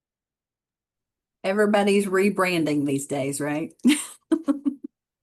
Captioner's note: laughs